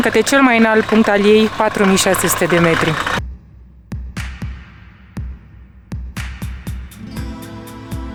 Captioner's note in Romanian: Aplauze